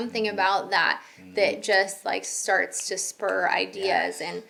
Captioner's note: snapping